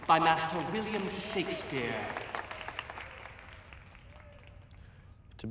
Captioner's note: audience applauding